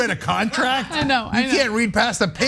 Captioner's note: laugh